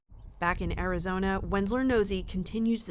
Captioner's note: voice-over